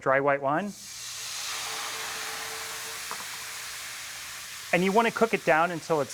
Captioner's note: sizzling